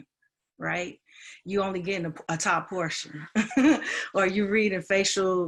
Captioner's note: chuckles